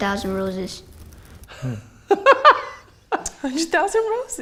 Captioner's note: man laughs